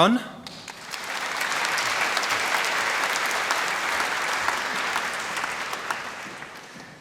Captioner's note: applause